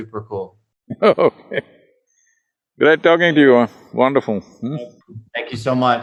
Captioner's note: laughs